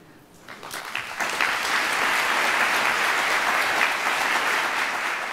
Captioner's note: applause